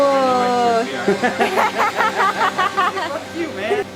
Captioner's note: man muttering; laughing